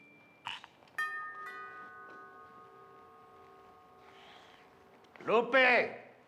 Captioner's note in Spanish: Timbre de la puerta